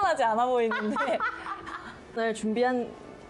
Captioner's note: laughing